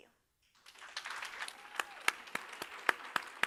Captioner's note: applauds